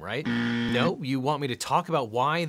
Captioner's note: buzzer buzzes